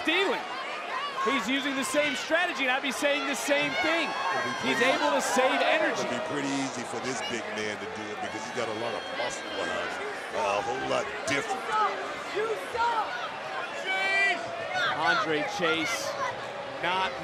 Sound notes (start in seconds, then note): 11.6 crowd yelling